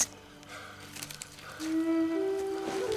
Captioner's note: none